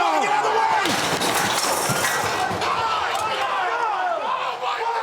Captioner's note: structure crashing